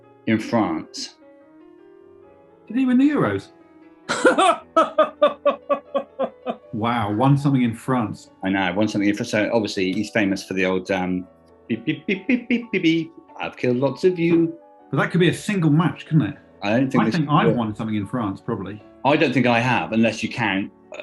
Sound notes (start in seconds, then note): 4.2 laughing